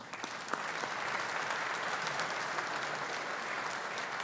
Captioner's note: audience applauding